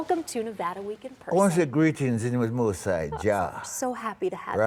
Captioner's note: in Jamaican Patois